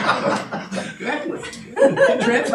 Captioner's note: audience laughing